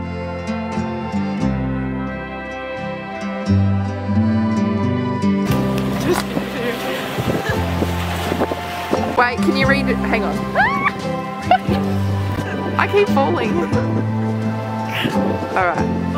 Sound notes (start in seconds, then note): 10.5 fake scream; 14.9 laughing